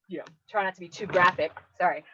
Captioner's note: microphone scrapes